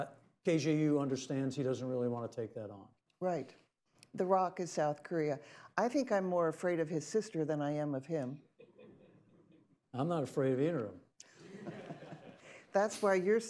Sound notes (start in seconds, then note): 8.4 laughter